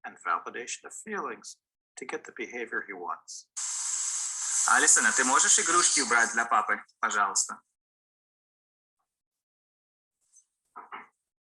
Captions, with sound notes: and validation of feelings to get the behavior he wants. (man speaking in foreign language)